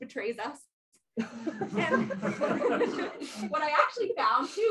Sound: laughter

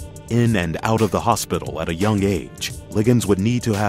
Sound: voiceover

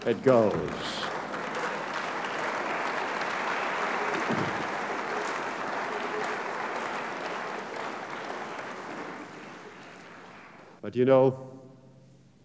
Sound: applause

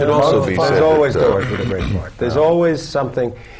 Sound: clears throat

